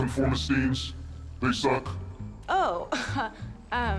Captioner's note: chuckles